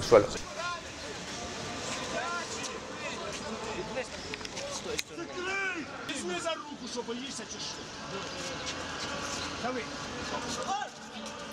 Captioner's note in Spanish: Gritos,voces indistintas